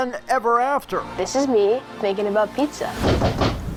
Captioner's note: heavy knock on door